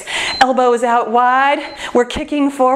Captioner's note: timer beeps